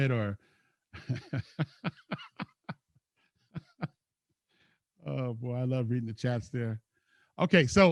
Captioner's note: laughs